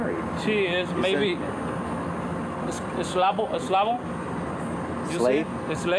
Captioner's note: spanish